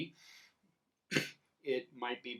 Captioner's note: coughs